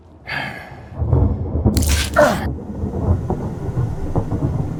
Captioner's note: Janus grunts; thunder rumbles